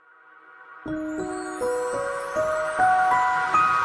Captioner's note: chimes